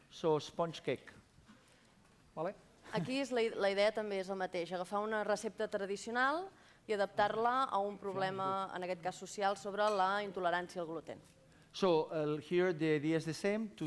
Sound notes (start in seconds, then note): 2.1 non-english speech